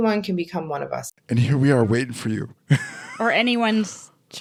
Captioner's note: laughing